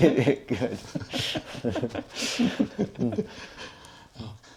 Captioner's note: laughing